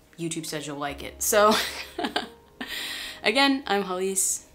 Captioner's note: laughs